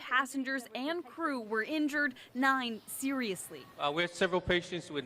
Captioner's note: none